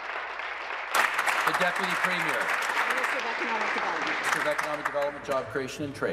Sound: applause

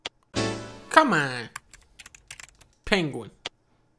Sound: typing

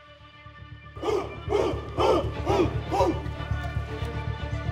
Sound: grunting

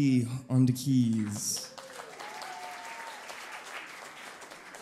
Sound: audience cheering

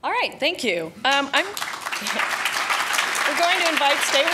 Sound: audience applauding

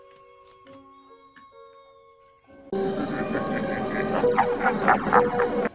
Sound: laughs in evil

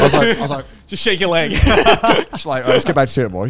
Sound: laughing

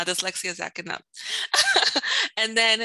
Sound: laughs

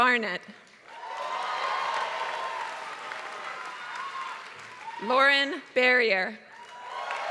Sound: applause

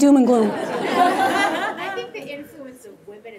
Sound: audience laughing

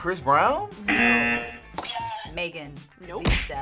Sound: buzzer sounds

